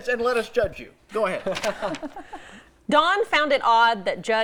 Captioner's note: laughter